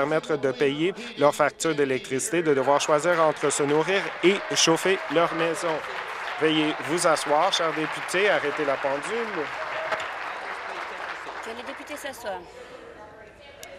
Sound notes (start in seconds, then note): 5.8 applause